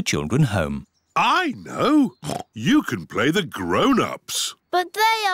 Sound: oinks

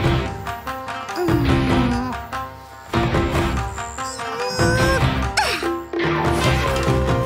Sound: yawn

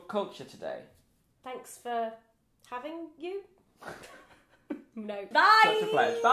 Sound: both laugh

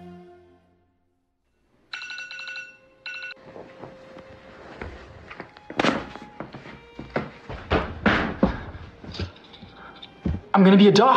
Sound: alarm clock

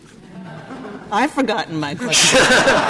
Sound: laughter

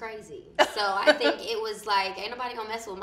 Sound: laughs

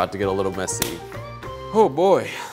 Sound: glove snaps

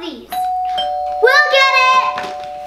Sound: doorbell chimes

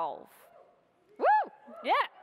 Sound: whooping

